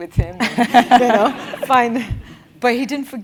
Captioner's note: laugh